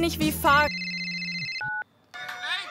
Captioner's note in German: Telefonklingeln